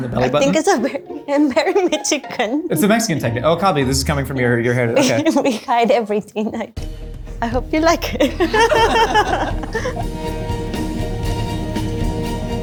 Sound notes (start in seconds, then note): 0.2 laughs; 8.0 laughs; 9.9 tense music